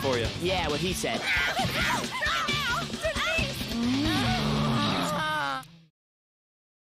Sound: groaning; screaming

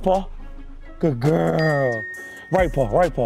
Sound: bell dings

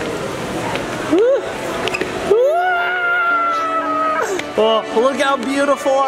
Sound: exclaiming

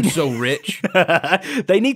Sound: laughs

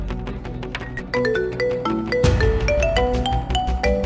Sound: phone ringing

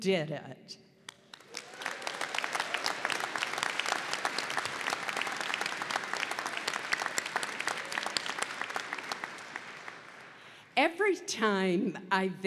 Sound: applause

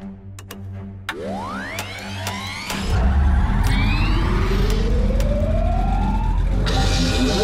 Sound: dramatic music; latch clicking; system revving up

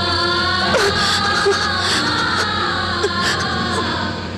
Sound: sobbing

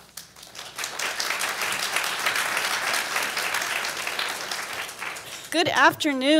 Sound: applauds

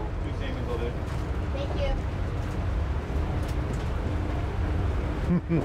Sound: street sounds, chatter

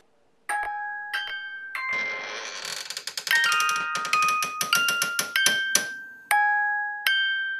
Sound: creepy box chimes; creaking

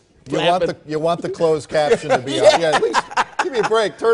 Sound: laugh

